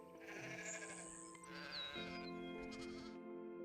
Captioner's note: sheep bleating